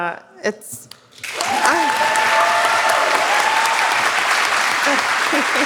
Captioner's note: audience applauds